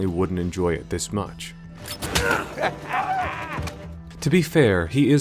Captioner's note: Drake Cackles